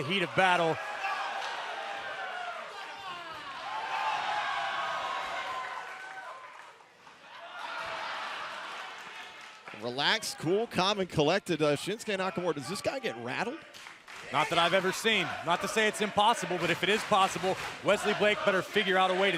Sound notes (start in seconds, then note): 4.8 cheers and applause